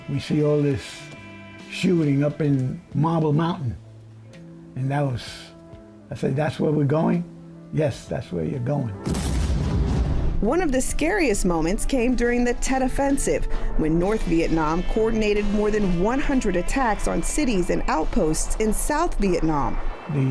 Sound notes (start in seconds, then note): 9.0 bomb exploding